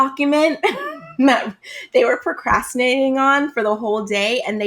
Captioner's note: laughs